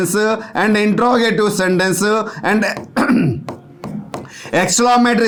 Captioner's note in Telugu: గొంతు సవరించుకోవడం